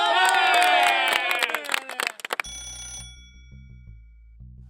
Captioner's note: crowd; telephone rings